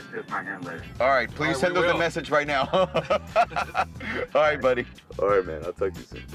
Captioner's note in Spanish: risas